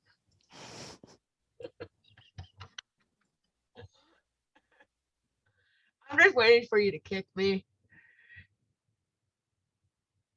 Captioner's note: laughs